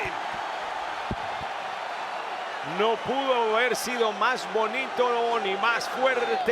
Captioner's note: applause